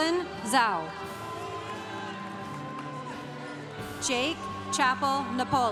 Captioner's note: congregation cheering